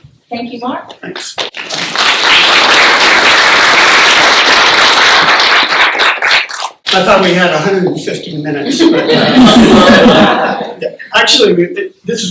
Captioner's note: laughter